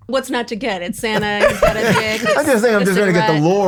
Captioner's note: everyone laughs